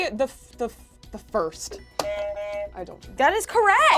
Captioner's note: buzzer buzzes